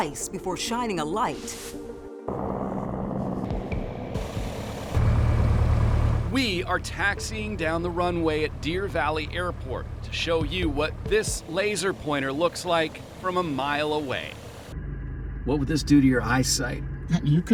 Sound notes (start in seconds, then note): 2.2 engine rumbling